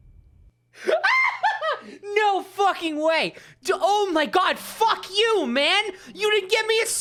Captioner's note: laughing